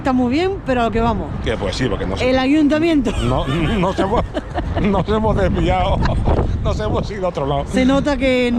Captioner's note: laughs